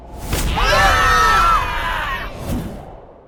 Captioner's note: scream